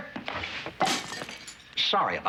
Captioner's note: glass shatters